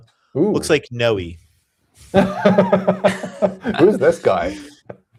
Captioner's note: laughter